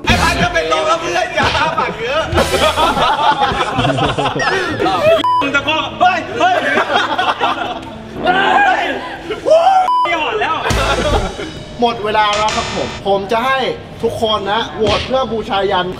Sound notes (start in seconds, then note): 2.6 laughs; 6.2 laughs; 8.1 shouts; 10.4 laughs